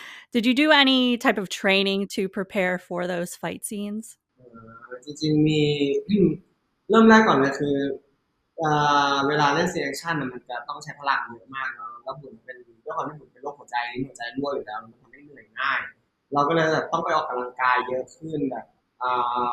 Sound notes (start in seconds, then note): 6.2 answering in Thai